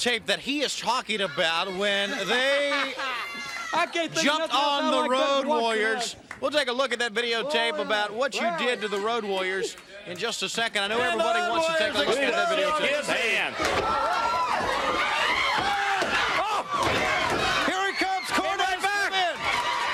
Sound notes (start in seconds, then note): 13.7 crowd chatter; 15.1 crowd cheering